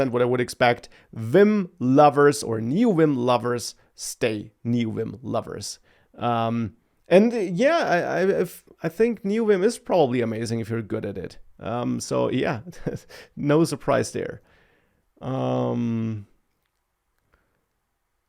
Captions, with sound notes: what I would expect. Vim lovers or Neovim lovers, stay Neovim lovers. Um, and yeah, I, I, if... I think Neovim is probably amazing if you're good at it. Um, so yeah (laughs) , no surprise there. Um,